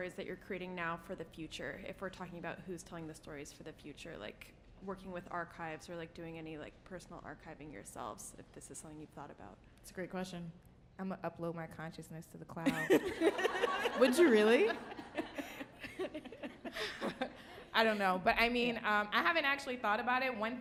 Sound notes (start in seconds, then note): 12.7 audience and panelist laughing; 15.5 panelist laughing